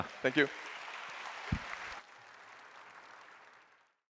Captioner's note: applause